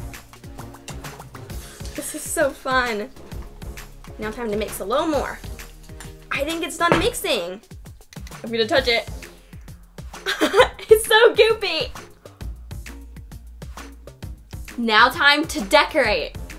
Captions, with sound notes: This is so fun! Now, time to mix a little more. I think it's done mixing. I'm going to touch it. [CHUCKLES] It's so goopy! Now, time to decorate.